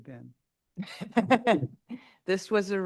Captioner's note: laughs